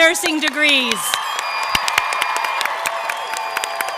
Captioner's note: applause